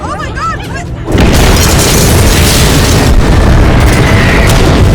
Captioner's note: sirens; explosions